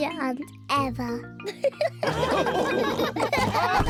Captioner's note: all laughing